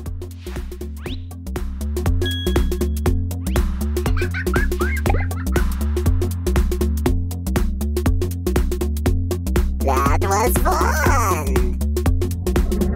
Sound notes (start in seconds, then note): 4.0 laughter